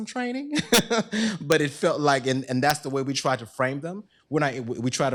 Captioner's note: laughs